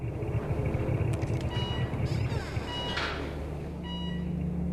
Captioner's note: alarm beeping